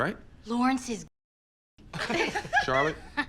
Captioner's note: group laughs